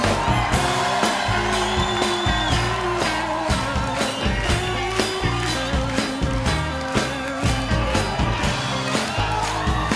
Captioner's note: singing; cheers and applause